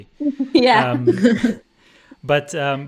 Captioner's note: laughter